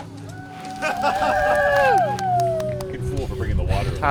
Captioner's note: spectators cheering; man laughing